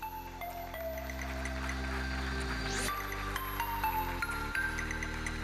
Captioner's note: audience applauding; electronic dance music